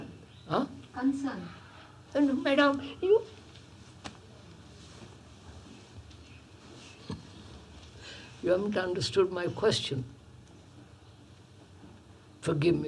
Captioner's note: laughs